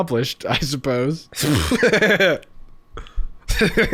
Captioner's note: laughing